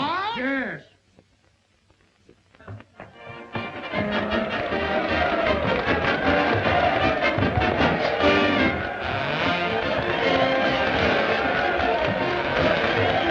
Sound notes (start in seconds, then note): 3.3 upbeat music; 6.1 crowd cheering